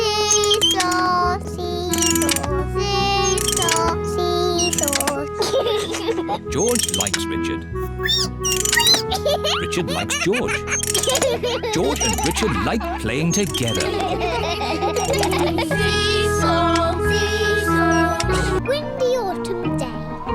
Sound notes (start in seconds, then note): 5.4 giggles; 8.2 squeaks; 14.3 all laugh